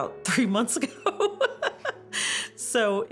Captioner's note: laughs